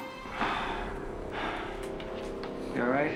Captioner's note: sighs